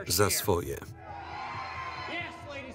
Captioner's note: cheers